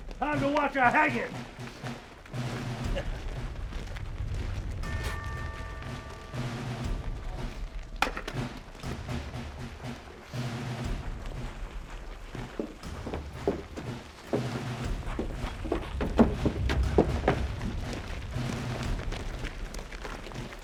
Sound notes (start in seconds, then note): 2.8 Bob chuckles; 4.6 bell tolling; 4.7 patriotic music continues